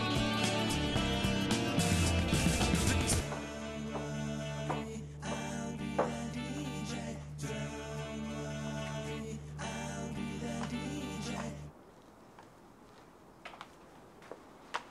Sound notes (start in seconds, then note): 2.8 steps approaching